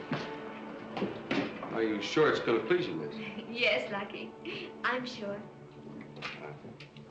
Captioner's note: giggling